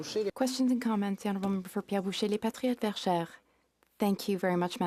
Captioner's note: speaking French